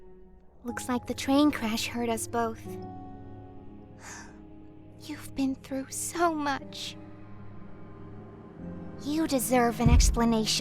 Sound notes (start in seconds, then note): 4.0 sighs